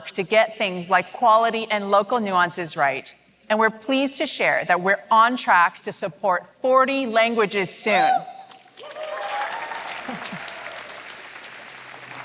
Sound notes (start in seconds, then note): 8.6 applause